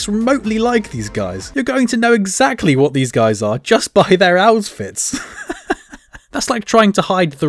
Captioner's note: laughing